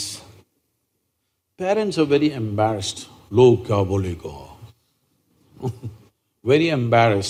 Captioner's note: speaks in Hindi – not transcribed; laughs